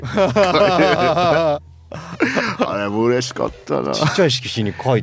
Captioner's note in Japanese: 笑い